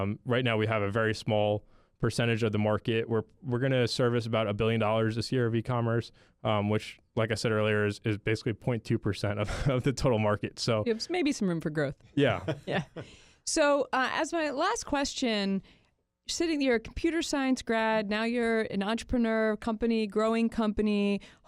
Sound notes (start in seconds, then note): 9.2 chuckles; 12.2 chuckles